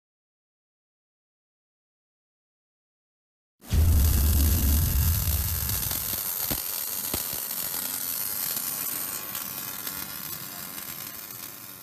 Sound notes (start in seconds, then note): 3.7 static crackling